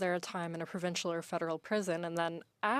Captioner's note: speaking French